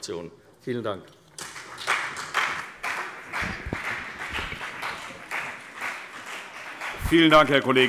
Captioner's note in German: Beifall CDU und BÜNDNIS 90/DIE GRÜNEN